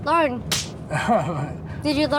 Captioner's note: slap